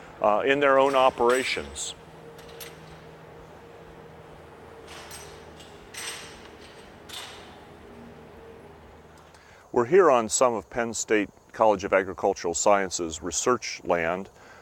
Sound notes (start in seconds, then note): 2.2 machinery sounds